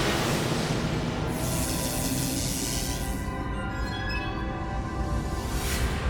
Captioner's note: light dramatic music; electricity zapping